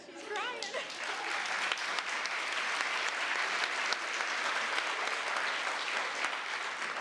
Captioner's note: applause